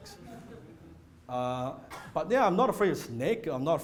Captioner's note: audience chuckling